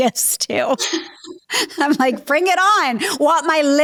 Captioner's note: both laughing